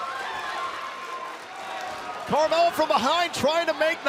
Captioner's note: crowd cheering